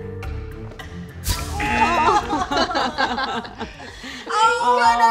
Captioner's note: light suspenseful music; all laugh